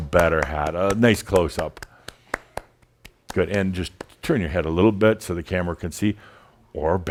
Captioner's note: claps